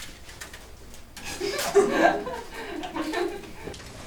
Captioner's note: laughter